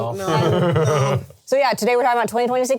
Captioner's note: laughs